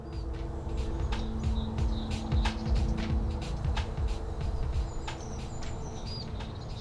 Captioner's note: traffic, birds